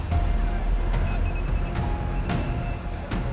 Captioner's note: beeping